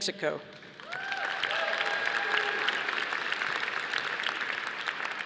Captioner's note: audience applauding